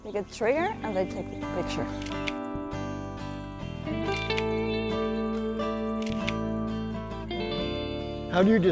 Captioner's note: camera shutter clicks